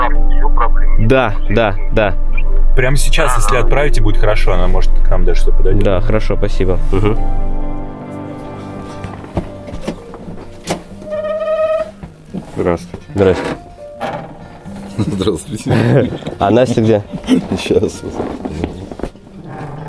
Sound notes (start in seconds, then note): 10.4 door squeaking